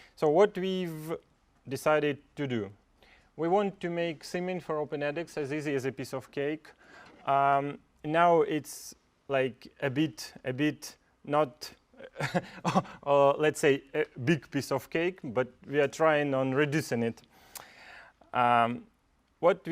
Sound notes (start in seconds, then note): 12.1 laugh